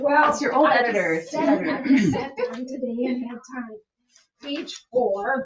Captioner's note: indistinct chatters